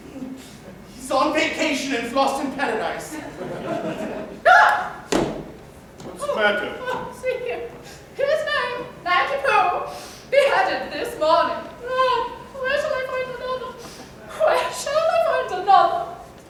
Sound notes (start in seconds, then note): 3.1 laughter